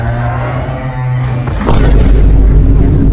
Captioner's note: vine boom 4